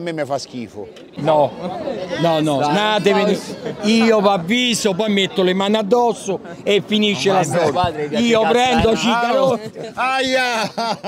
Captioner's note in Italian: Risate